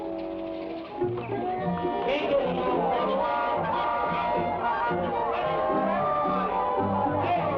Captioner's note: people chatter; cheerful music